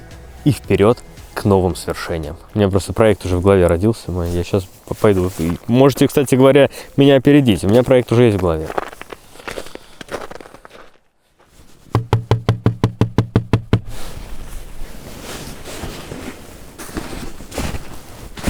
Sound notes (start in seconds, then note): 11.9 knocking